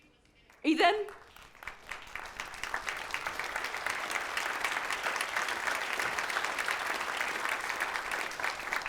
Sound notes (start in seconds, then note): 1.5 audience applause